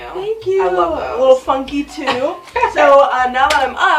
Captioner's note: laughs; claps hands